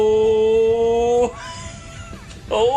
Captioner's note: wheeze